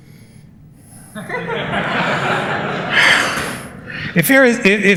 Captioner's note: laughter